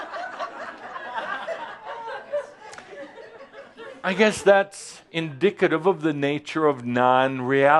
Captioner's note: laughter